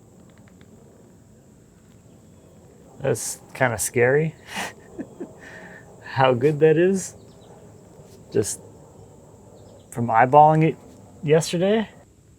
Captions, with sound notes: This kinda scary (laughs) how good that is just from eyeballing it yesterday.